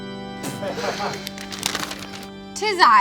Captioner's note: laughing